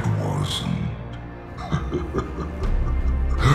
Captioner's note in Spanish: risas